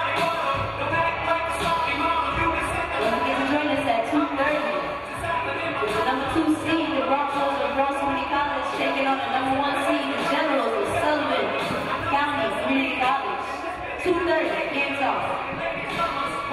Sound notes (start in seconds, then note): none